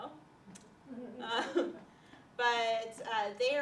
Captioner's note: laughter